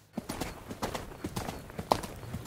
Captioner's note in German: Trabgeräusch